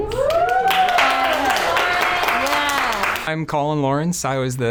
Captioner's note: cast and crew cheer and applaud